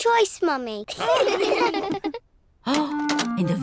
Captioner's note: all laugh